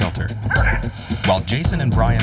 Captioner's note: dog barking